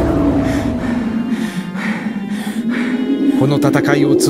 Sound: gasps

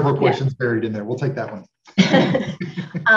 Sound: laughs

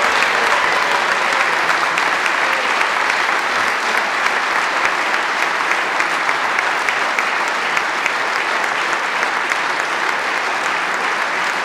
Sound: applause

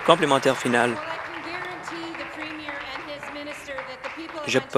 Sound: applause

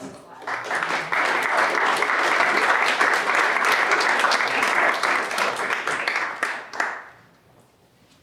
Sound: applause

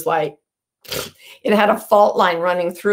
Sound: blows a raspberry

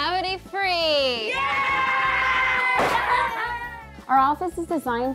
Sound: kids cheering

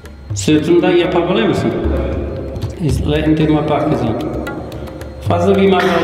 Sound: speaks foreign language

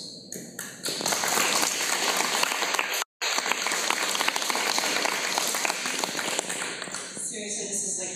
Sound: applause

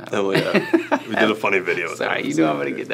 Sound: Michael laughs

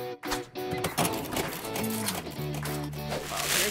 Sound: cash register beeping and whirring

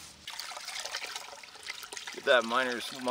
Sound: water running

